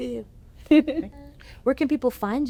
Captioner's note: laughter